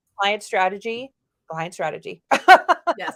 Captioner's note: laughs